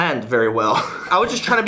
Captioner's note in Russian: смеётся